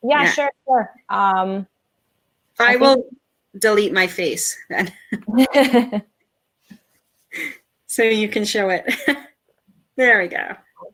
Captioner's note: chuckle